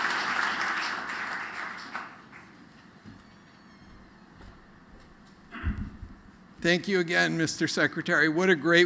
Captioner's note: applause